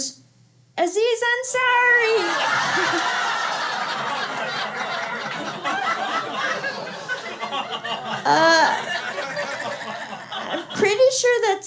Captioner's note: laughter